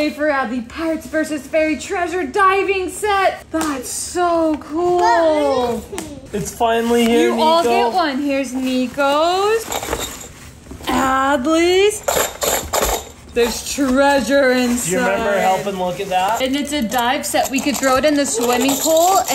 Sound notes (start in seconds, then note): 12.5 toy jingling